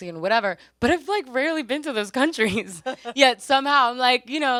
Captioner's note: laughs